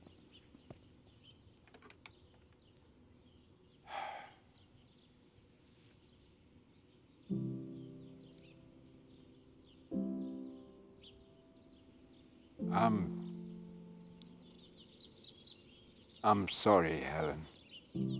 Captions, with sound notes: (Michael sighing) (gentle orchestral music) - I'm, I'm sorry, Helen.